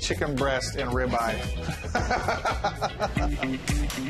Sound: both laugh

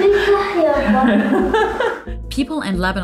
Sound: laughs

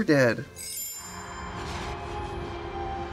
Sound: twinkling; eerie instrumental music

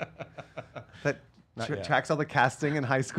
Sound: laughing

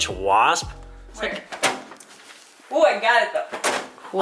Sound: towel whipping

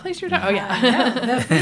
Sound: laughter

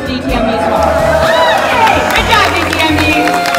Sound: crown Cheers

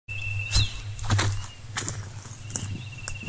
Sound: footsteps

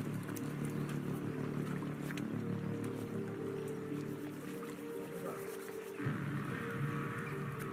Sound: water flowing

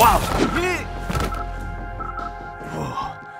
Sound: beeps; grunts

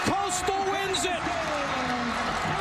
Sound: cheering

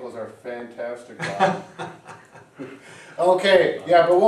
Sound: chuckles

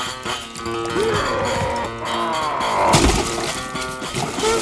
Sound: splashing; yelling; splashing

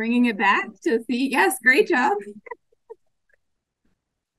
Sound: laughs

